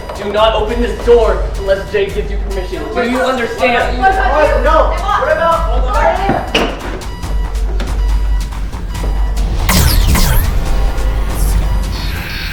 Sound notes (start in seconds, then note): 4.3 all shouting; 9.6 gun firing